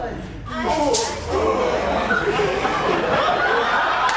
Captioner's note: men groan; audience laughs